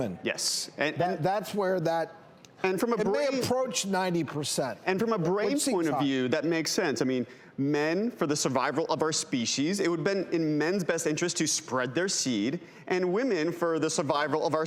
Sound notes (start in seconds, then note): none